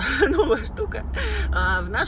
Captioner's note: laughs